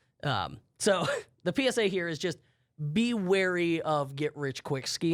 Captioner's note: laughs